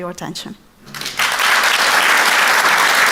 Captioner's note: applause